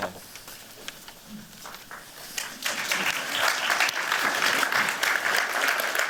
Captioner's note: applause